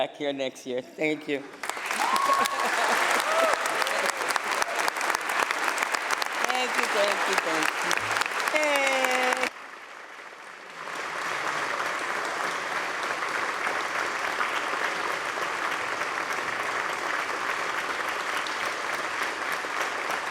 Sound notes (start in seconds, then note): 0.1 applause; 1.2 cheers and applause; 9.1 applause